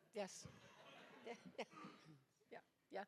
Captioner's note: audience laughs